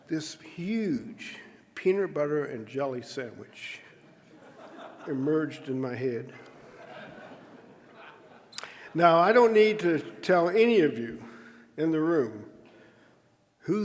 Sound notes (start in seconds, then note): 6.4 audience laughing